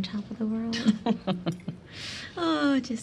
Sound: laughs

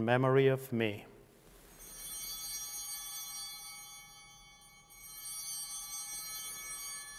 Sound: chimes ringing

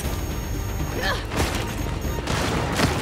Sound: gunfire

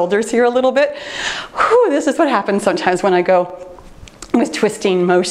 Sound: exhales

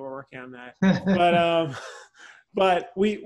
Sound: laughing

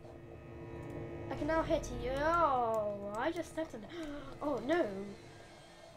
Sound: gasp

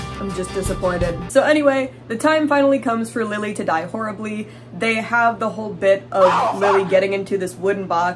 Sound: oh f*ck!

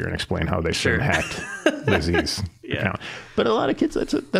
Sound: laughing

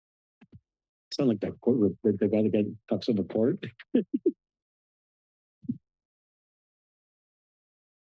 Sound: background conversations

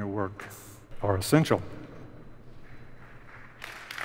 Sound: applause

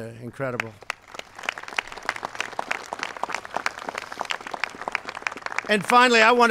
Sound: applause

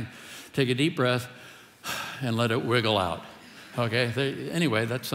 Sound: exhaling

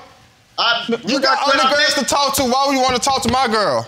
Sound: stammers

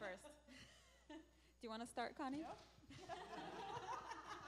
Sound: laugther

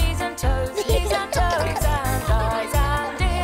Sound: giggling

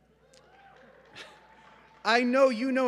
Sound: cheering

